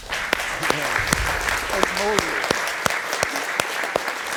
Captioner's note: all applauding